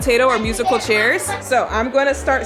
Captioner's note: kids chattering